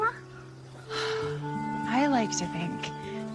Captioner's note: exhales